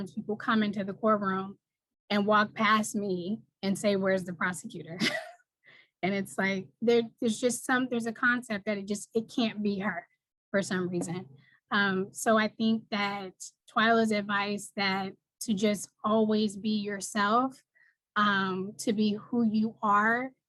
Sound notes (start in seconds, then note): 5.0 chuckles